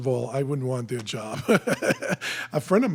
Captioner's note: laughs